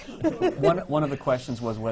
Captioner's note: laughs